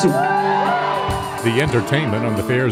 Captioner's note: crowd cheers